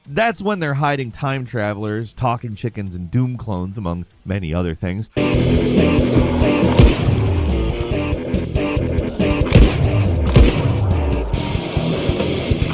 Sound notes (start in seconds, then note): 5.1 upbeat ambient music; 7.7 gunshot fires